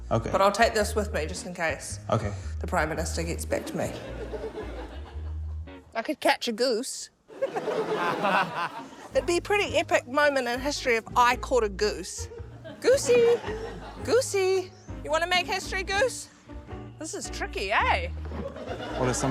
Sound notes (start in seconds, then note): 7.3 laughter